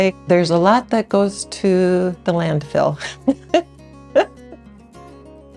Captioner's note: laughs